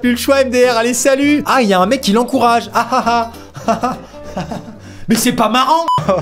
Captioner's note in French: Rires légers